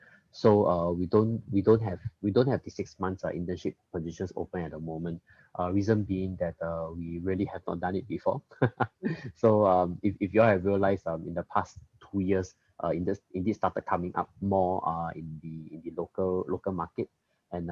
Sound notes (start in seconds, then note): 8.5 laughs